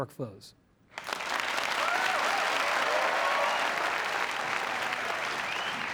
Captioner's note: applause